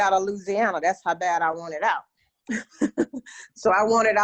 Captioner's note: laughs